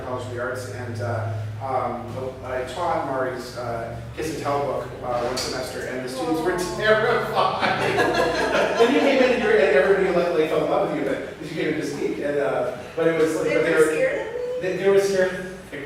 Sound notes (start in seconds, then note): 7.1 laughs